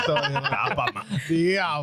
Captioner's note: laughter